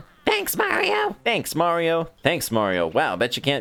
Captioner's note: normal voice